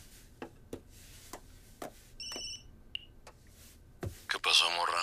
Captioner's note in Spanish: Suena el celular